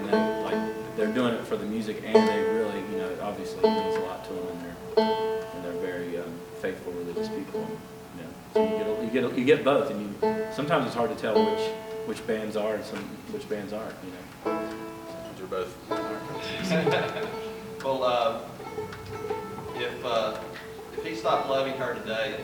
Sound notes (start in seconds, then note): 16.3 laughter